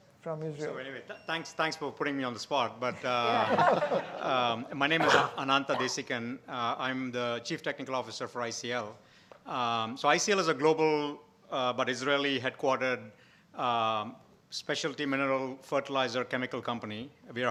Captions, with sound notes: from Israel. - So anyway, thanks for putting me on the spot but, (all laughing) my name is Anantha Desikan, I'm the chief technical Officer for ICL. So ICL is a global but Israeli-headquartered specialty mineral fertilizer chemical company.